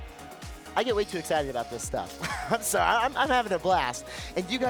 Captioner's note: chuckles